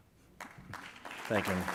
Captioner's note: audience claps